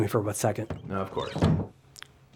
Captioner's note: door slams